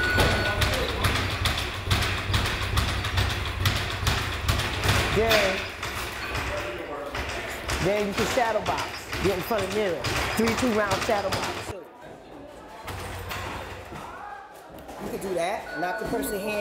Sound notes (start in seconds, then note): 5.6 indistinct chatter; 11.6 thudding from hitting the boxing ball